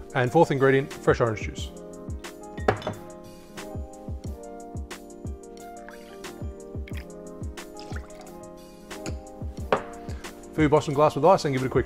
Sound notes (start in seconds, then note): 4.6 pouring